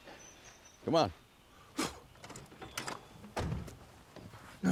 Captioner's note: solomon spits, doors open